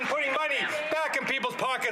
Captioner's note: some Applause